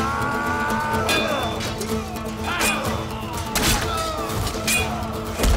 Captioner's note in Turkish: Savaş sesleri